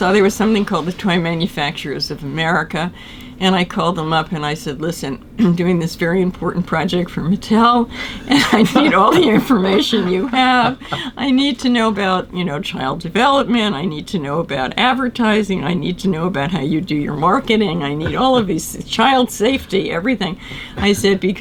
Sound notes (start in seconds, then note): 8.2 laughter